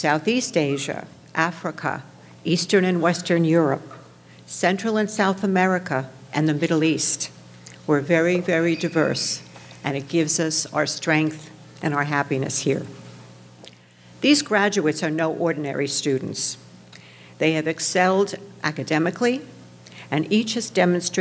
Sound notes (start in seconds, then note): none